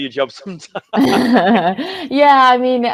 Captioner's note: laughs